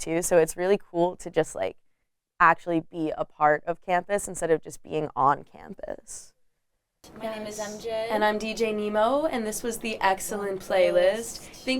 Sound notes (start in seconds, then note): none